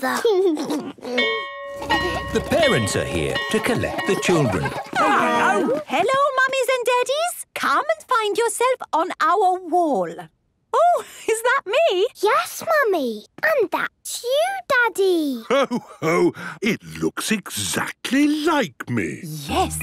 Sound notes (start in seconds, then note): 0.2 giggles; 1.2 bell ringing